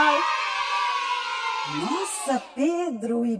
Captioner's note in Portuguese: som de risadas de criança ao fundo